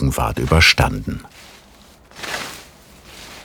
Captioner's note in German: Rascheln